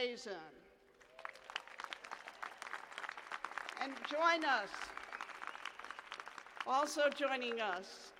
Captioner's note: applause